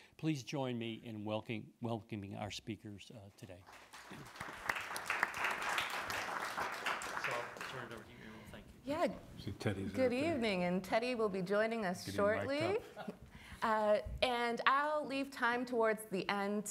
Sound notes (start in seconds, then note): 3.6 audience applauding; 12.2 laughs